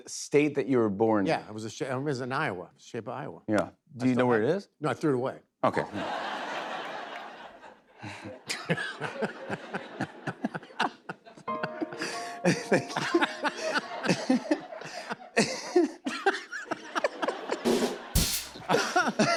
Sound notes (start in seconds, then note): 6.2 laughter; 7.6 chuckles; 8.7 laughs; 12.1 laughing; 13.5 laughter; 17.7 rim shot